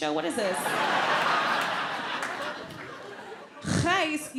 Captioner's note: audience laughs